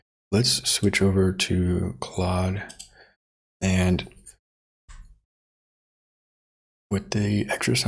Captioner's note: silence